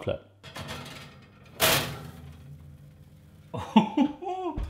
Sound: pan scraping; laughs

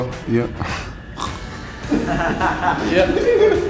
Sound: giggling

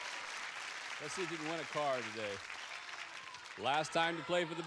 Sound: audience applauding

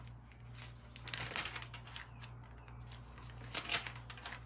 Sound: paper rustling

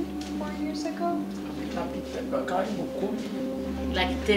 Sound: non-english speech

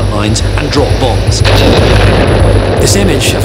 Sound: explosion booms

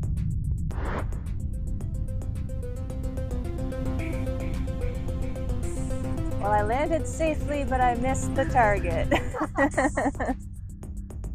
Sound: laughing

